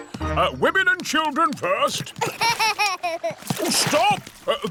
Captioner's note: laughs